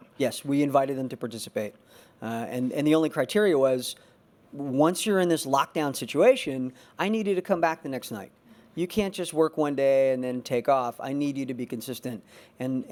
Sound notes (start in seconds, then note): none